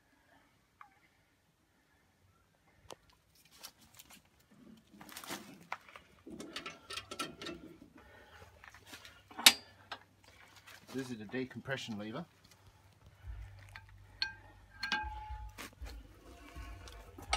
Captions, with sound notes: *rattling of cap* So this is the decompression lever